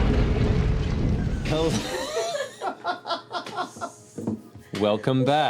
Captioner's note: laughter